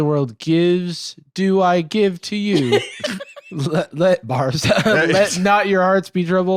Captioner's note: laughs